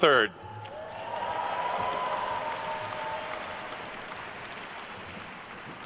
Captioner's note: attendees cheering and applauding